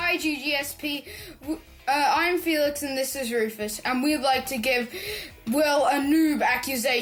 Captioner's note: none